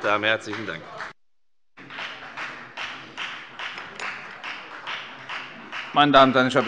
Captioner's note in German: Beifall bei der FDP